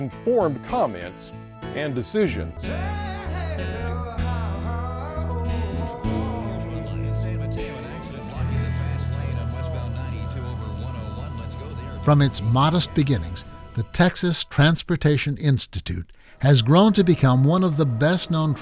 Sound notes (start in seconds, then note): 2.5 blues music; 2.5 radio traffic reports